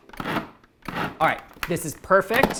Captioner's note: food processor whirs